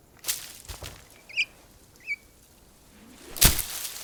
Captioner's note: birds chirping